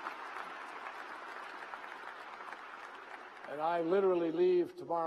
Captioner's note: applause